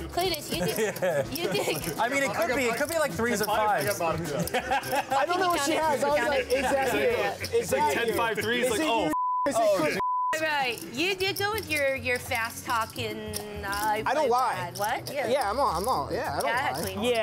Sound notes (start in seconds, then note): 4.2 laughter; 9.1 beep